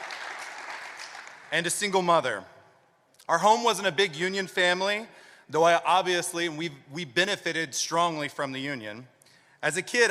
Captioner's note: applause